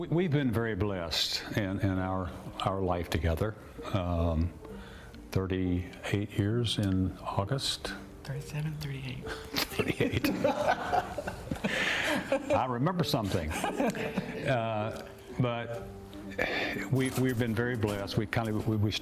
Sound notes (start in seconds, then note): 9.3 both laugh